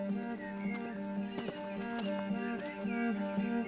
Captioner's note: atmospheric music playing; footsteps